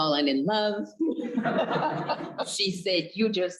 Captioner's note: both laughing